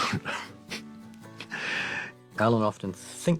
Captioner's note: chuckles